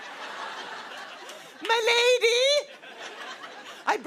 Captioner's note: laughter